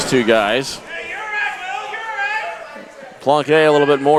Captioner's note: crowd cheering